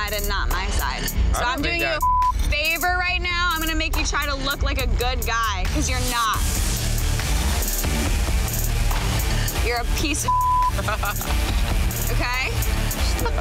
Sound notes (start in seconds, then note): 6.4 dramatic music; 10.7 laughs